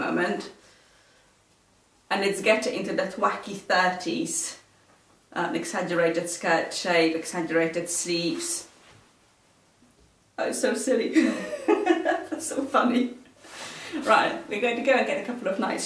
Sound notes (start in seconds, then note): 11.1 laughs